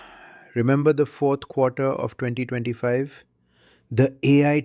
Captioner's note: sighs